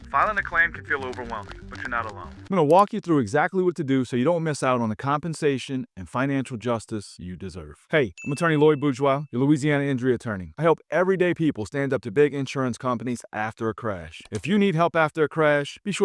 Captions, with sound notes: Filing a claim can feel overwhelming, but you're not alone. (screen clicking) I'm going to walk you through exactly what to do so you don't miss out on the compensation and financial justice you deserve. (bell dinging) Hey, I'm Attorney Loyd Bourgeois, your Louisiana injury attorney. I help everyday people stand up to big insurance companies after a crash. (screen clicking) If you need help after a crash,